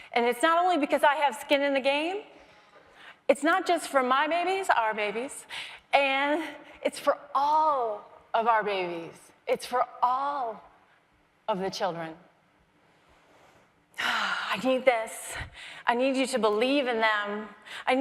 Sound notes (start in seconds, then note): none